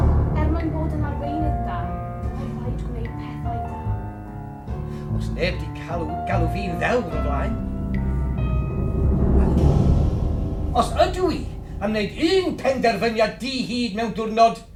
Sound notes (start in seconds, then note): none